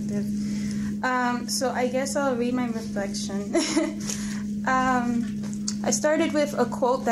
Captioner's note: laughs